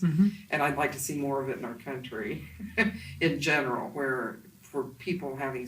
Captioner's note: laughs to self